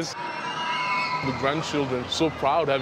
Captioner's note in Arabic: الناس يصرخون